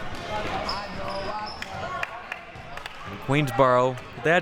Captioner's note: audience chattering and yelling